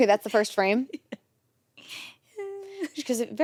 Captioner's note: chuckles